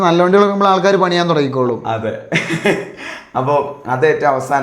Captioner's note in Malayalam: പൊട്ടിച്ചിരി